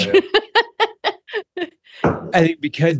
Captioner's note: laughing